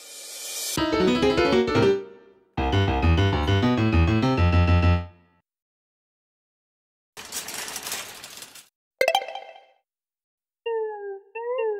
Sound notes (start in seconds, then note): 9.0 app activates